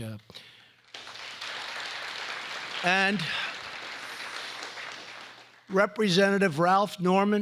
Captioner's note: applause